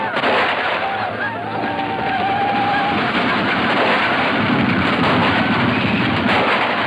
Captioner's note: cowboys whooping; gunshots roaring